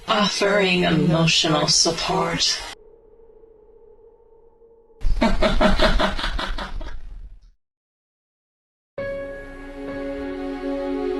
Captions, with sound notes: AI Offering emotional support. AI *Laughs*